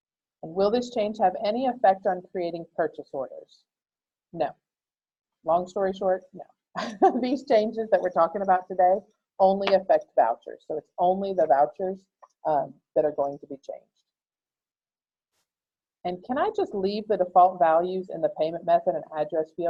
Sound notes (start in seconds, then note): 6.7 laughter